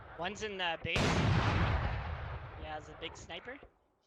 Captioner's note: loud gunshot